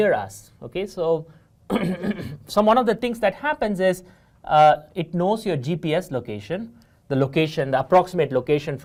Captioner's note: cough